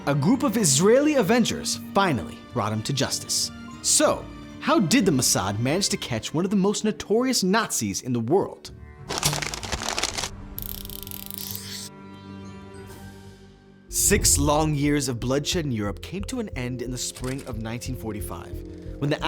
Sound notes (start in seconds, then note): 9.0 paper ruffling; 10.6 marker scribbles